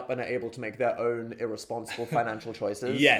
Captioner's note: chuckles; chuckling